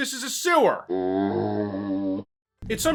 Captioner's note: zombie sound